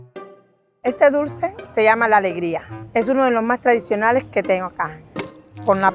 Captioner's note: upbeat music; speaking in foreign language